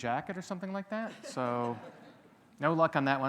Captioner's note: audience laughing